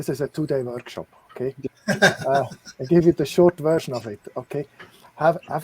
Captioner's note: laughter